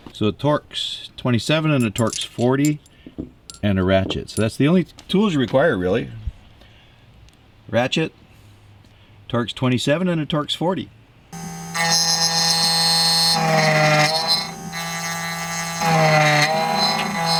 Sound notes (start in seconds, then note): 11.3 grinding; 11.3 whirring